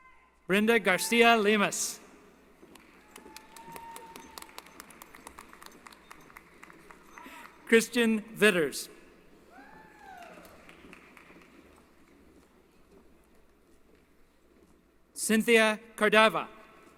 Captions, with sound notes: Brenda Garcia Limas. [ Applause ] Christian Vitters. [ Applause ] Cynthia Cardava.